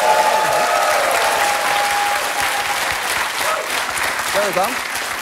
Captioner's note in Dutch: gejuich en applaus